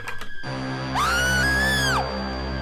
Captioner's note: screaming